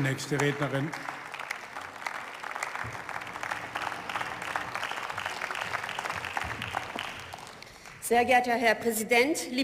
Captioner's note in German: Beifall